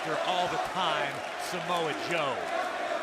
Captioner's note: crowd cheering; crowd chatter